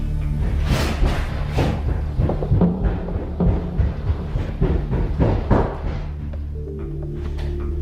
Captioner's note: running steps